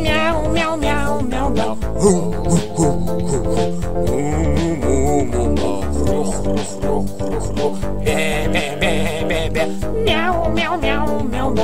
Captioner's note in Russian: Мяу... Гав... Му... Хрю... Му